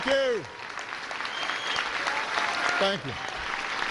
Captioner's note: cheers and applause